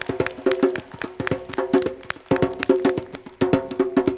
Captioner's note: applause